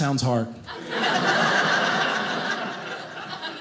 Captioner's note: audience laughing